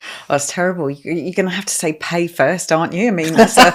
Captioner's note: laughing